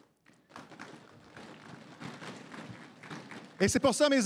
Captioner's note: applaudissements